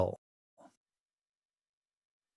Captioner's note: pause